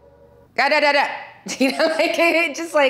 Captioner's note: Milla shouting robotically; Milla laughing amusingly